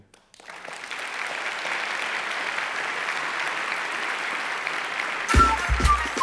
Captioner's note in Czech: Potlesk